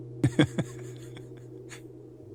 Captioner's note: laughs